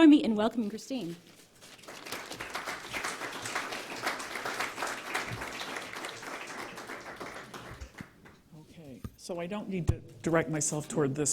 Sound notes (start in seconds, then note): 1.6 applause